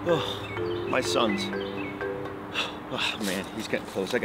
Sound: dad takes breath

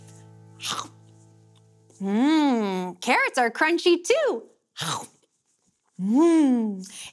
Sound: chomps

